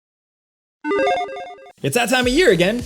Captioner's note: electronic chiming